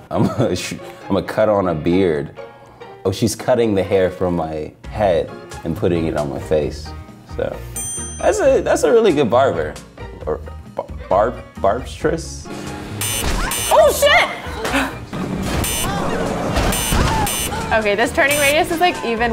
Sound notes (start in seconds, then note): 7.8 ding; 13.0 beep; 15.6 beep